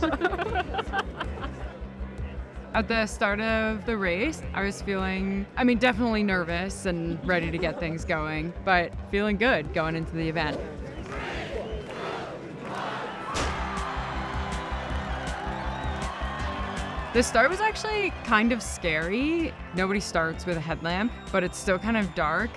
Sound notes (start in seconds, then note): 0.0 friend cheering; 0.0 laughing; 10.8 crowd; 13.2 ambient music; 13.2 crowd cheering